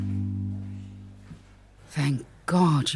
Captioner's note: hospital ambience